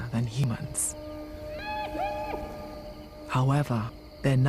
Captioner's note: hyena calls in distance